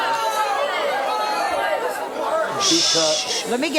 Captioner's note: audience talking